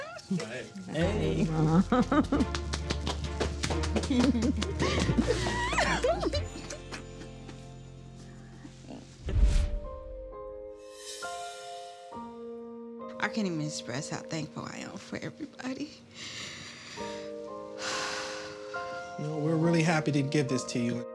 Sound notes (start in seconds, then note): 0.0 crying; 9.7 gentle music; 15.9 sighs